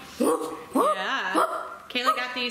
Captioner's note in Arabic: اصوات القردة